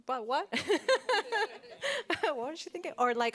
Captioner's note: laughs